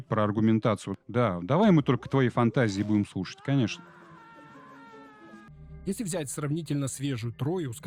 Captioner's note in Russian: плач; крик